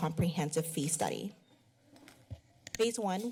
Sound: pause

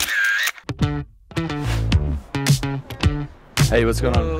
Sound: camera shutter clicking; jazzy music

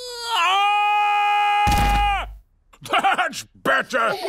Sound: squeaks; shouts; thudding; chuckles

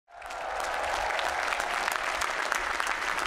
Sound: applause

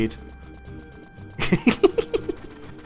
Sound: giggles

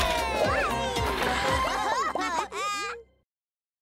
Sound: laughing

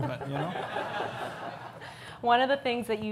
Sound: audience laughs

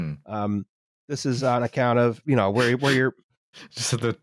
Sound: laughs

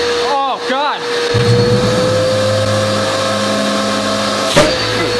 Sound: vacuum suction noises

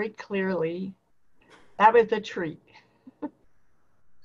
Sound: laughter

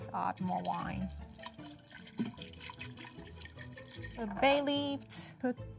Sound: wine splashing

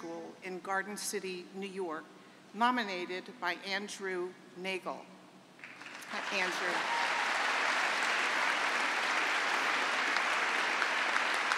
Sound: applause

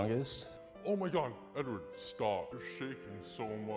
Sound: distorted voice

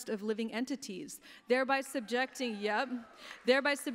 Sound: applause

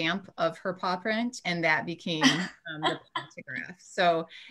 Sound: laughing

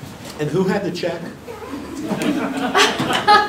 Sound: audience laughing

